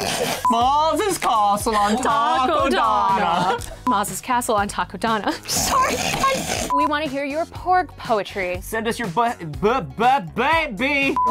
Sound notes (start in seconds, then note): 0.3 fake english accent; 5.3 laughs; 5.9 laughter